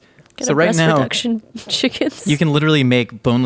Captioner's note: laughing